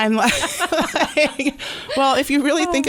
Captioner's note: laughter